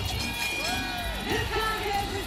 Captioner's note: bell rings